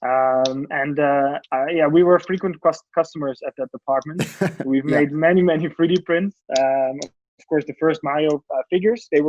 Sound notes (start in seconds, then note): 4.2 man 1 laughs